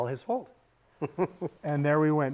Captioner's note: laughing